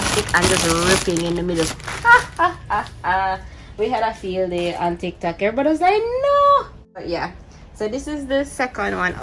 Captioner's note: laughs